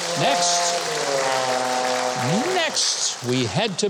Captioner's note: horn blows